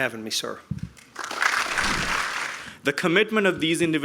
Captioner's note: applause